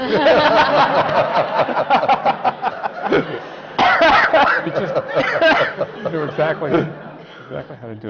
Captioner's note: laughter